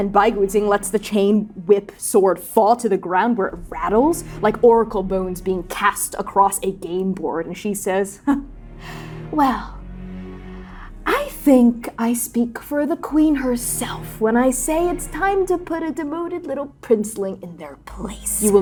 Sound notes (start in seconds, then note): 8.8 scoffing